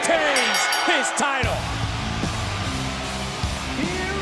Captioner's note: bell rings